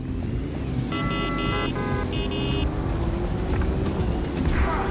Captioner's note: car engine revving; car horns blaring